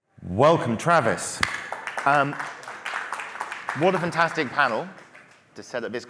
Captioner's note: applause